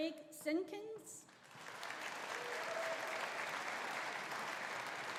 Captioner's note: audience applauding